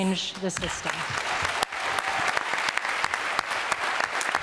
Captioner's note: applause